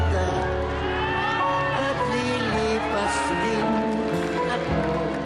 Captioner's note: applauding, cheering